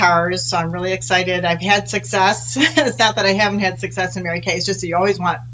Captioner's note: laughs